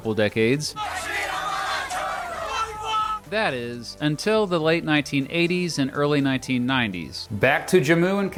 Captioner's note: shouting